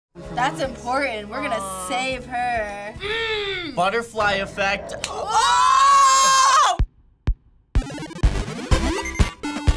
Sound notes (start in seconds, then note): 3.0 grumbling; 7.7 upbeat video game music